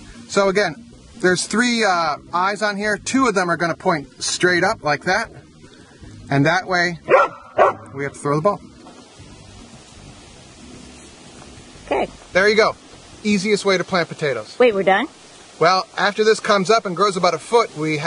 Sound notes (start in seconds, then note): 7.0 dog barking